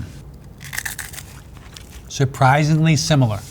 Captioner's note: crunches